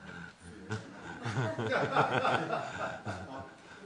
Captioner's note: laughter